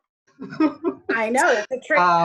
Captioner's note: laughs